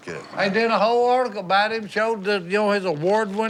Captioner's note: laughing